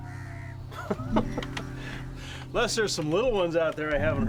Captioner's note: laughs